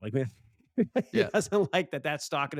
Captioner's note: laughs